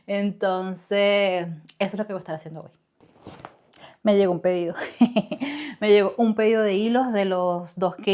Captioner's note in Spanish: risas